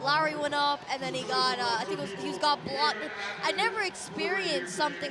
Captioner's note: laughter